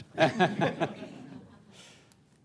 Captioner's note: laughter